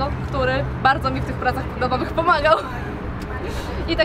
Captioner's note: laugh